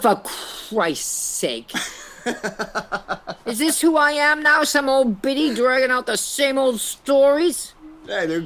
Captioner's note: laughs